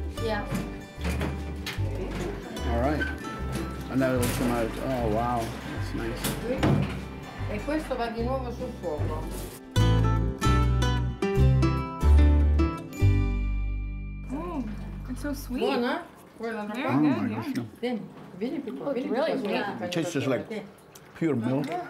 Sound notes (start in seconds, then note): 7.5 speaking Italian; 9.9 playful guitar music; 15.8 speaking Italian